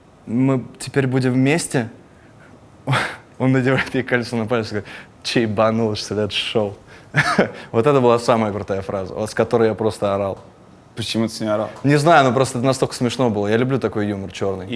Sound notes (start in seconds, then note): 7.2 chuckles